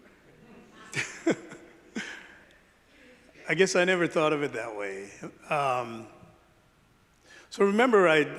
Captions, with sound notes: - (laughs) I guess I never thought of it that way. So remember, I,